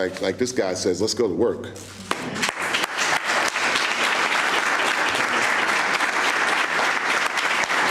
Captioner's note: applause